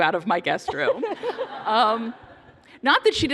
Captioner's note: laughter